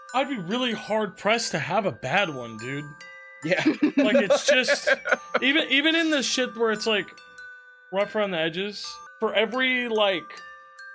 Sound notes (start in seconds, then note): 3.5 laughs